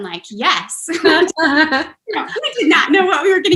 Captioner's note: laughter